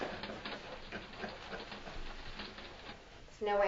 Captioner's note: laughing